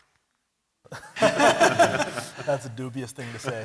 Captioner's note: laughter